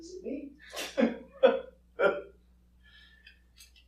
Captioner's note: chuckling